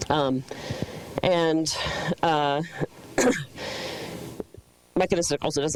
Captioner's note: coughs